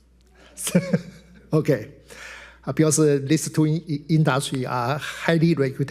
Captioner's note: laughs